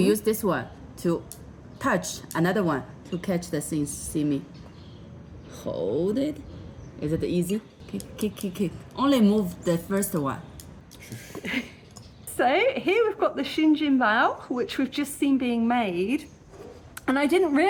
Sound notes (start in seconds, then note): 10.9 laughing